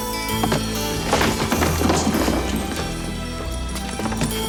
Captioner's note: door thuds